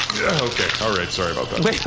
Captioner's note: grunts and beer splashes to the floor